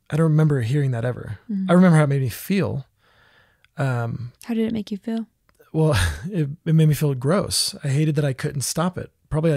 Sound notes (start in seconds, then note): 5.8 laughs